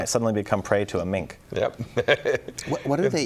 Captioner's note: laughs